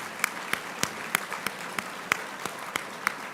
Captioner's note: applauding